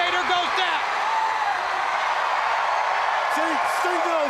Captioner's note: crowd cheering